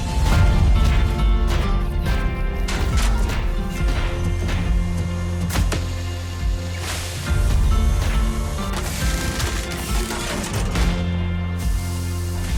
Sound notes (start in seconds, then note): 2.6 thunderous footsteps